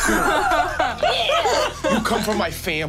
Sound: group laughing

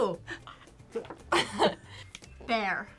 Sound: both laugh

